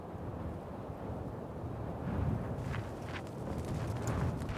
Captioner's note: wind gushing